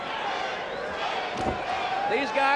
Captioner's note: crowd cheering